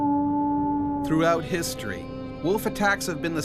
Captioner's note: voiceover